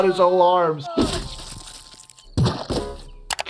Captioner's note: laughs; Disco Bear yelling